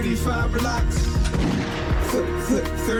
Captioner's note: gunshot